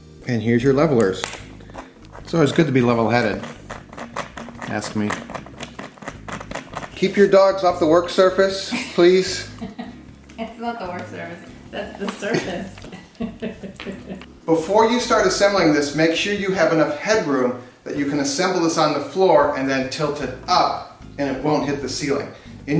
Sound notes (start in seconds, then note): 0.0 hammer striking; 5.0 leveler turning; 11.7 laughing